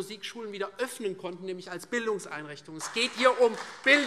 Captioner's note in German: Beifall Freie Demokraten und SPD